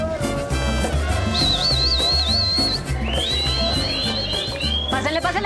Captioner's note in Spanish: Silbidos